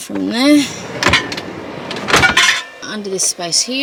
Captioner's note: drawer slides heavily and contents rattle as it bangs shut